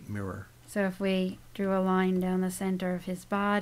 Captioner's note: voiceover